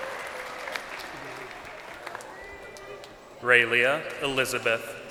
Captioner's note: crowd cheering